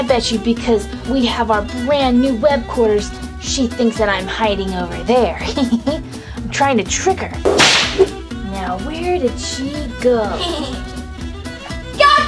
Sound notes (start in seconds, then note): 5.5 giggles; 7.4 whip cracks; 10.4 giggles